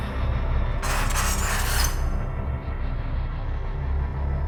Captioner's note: scratching